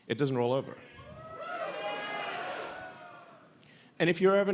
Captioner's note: audience cheers